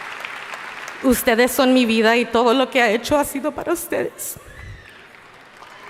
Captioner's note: speaking in foreign language